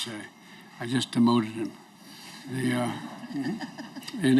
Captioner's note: laughter